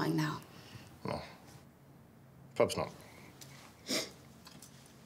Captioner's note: sniffs